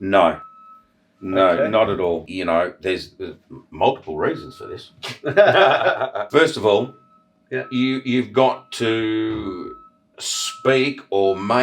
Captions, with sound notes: - No, no, not at all. There's multiple reasons for this. (laughing) First of all, you've got to speak or make or email